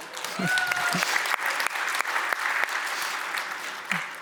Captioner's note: audience applauds